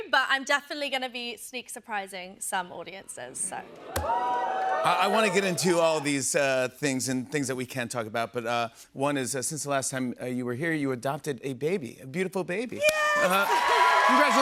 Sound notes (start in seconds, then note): 3.8 audience oohs; 12.8 cheers and applause